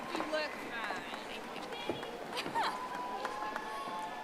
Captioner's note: audience applauding